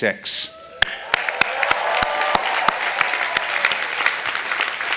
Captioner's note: audience applauding